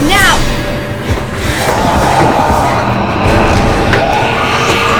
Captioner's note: growling